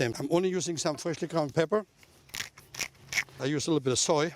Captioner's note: pepper mill grinding